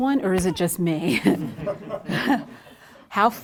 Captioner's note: audience laughs